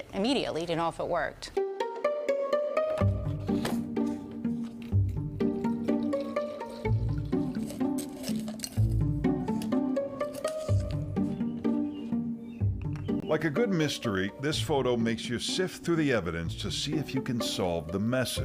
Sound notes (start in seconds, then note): 5.1 upbeat music; 8.3 water splashing